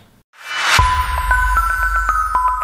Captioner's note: whooshing; tinkling music